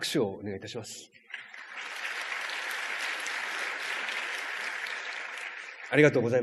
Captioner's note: clapping sound